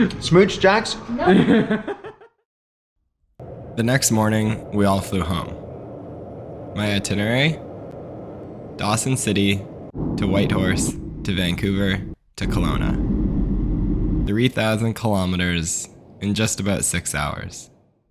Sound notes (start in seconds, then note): 1.2 laughs